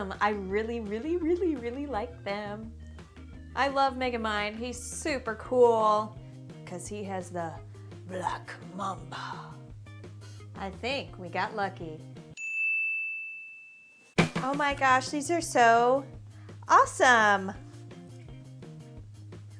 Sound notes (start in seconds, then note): 12.3 ding